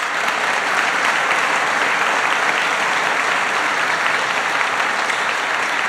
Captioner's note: applause